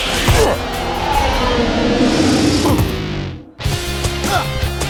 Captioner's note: ball whooshing; grunting